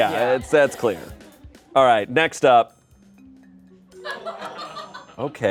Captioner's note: laughter